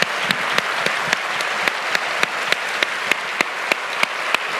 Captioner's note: applause